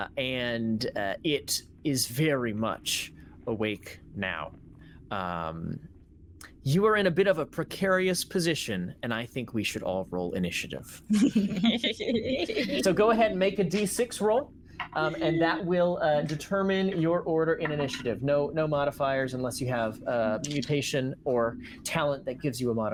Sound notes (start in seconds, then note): 11.1 laughing